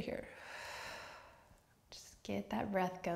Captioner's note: deep outward breath